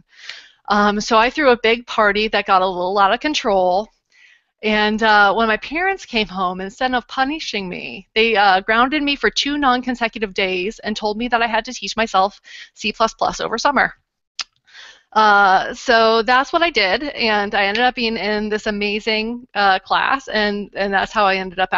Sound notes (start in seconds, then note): none